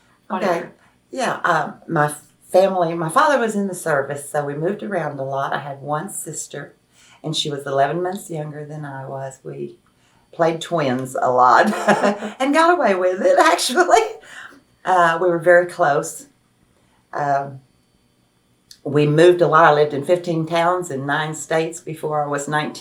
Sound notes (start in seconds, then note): 11.6 laughs